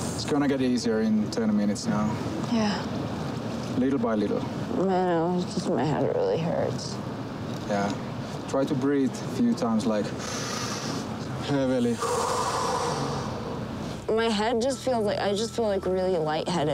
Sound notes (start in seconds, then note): 9.8 inhaling deeply; 11.8 exhaling